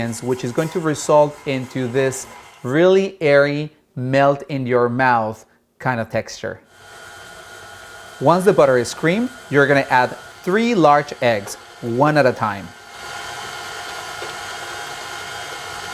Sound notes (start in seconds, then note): 6.8 mixer whirs